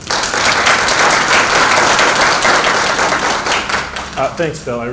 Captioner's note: applause